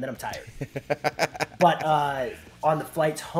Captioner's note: laugh